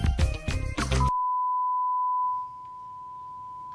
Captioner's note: beep